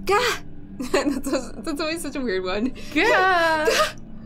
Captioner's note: laughing